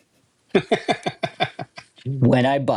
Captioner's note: laughter